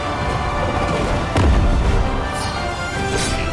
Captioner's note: dramatic music; explosion booms; dramatic music